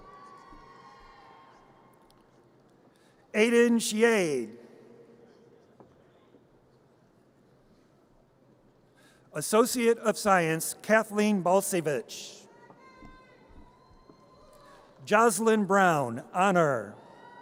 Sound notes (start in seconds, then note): 0.0 audience cheers; 13.1 audience cheers